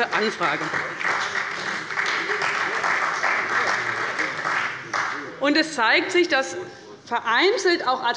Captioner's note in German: Beifall bei dem BÜNDNIS 90/DIE GRÜNEN und der CDU